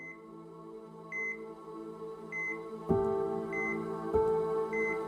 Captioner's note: beeping machinery